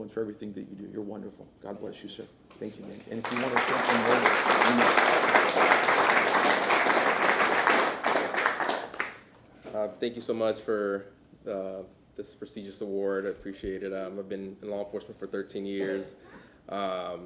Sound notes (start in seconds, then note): 7.1 applause